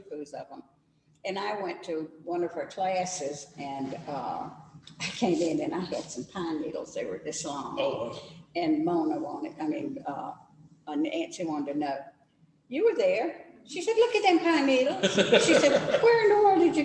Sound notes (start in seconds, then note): 14.8 laughs